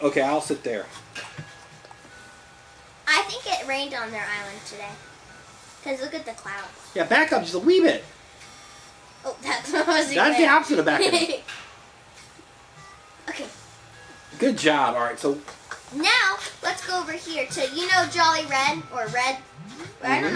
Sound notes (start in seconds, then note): 10.9 chuckles